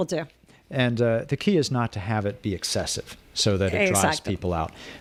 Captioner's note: Hablando ingl\s